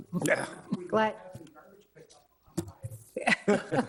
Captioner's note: laughing